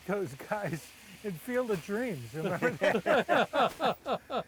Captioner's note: all laughing